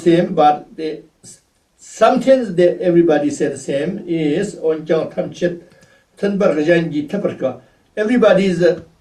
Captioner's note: tibetan